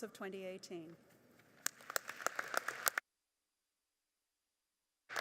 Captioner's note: audience applauding